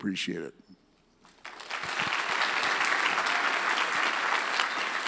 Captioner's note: audience applauds